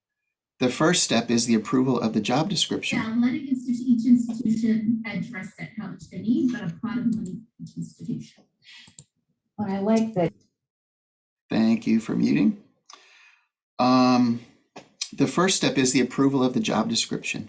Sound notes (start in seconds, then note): 3.9 background chatter